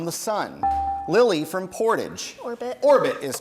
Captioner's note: bell rings